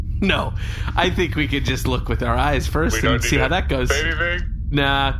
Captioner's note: laughing